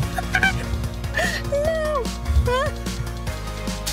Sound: laughing

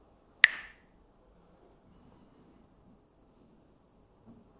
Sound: clacks the sticks

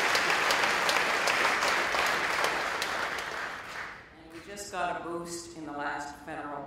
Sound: applause

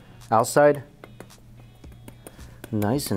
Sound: fork tapping

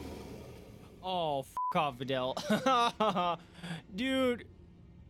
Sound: laughs

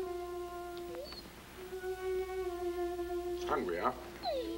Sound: Shep whines

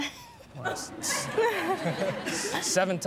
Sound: laughter

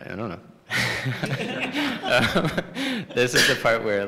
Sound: laughter

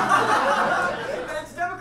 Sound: audience laughs

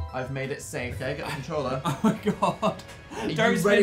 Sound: laughs

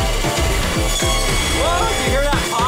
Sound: saw blade buzzing

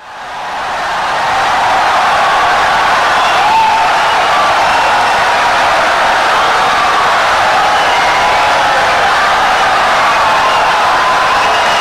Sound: wild applause and cheering for 17 seconds

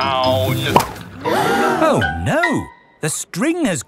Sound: all gasp

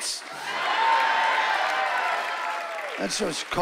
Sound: cheering and applause

